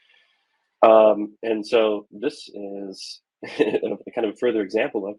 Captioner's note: giggles